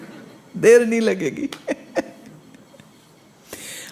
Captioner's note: giggles